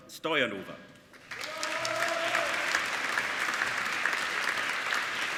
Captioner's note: applauding